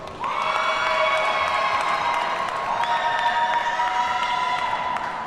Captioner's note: audience cheers and applauds